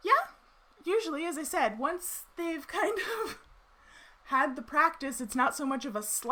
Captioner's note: chuckles